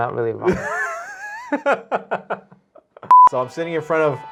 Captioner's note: laughs